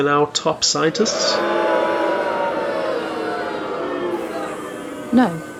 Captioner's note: booing